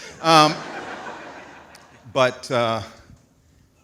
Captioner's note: audience laughs